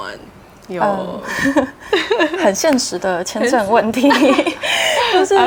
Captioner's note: chuckles